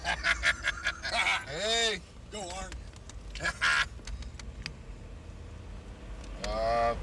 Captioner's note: laughs; wrestler laughing